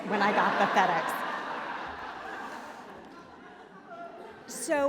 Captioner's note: laughter